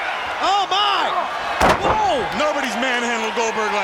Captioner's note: body thuds